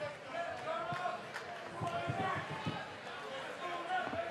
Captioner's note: audience cheering